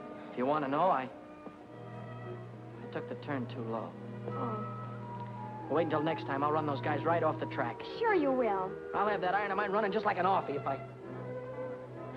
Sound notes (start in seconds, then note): none